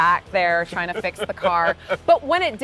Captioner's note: laughing